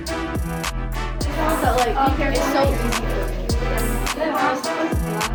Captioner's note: chatter